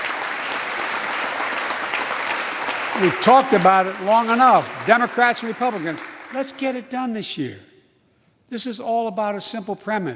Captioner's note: applause